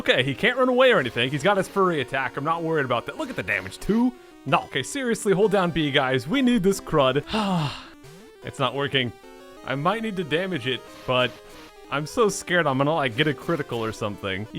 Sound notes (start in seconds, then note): 7.2 sighs